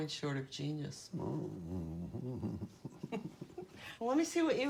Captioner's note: laughing derisively